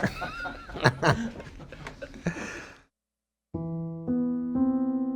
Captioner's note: laughter